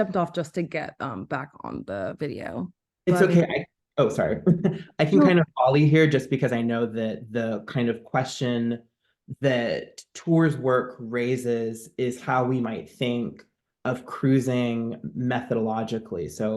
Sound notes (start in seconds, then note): 4.2 laughs